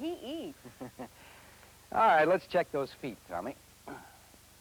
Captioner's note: laughs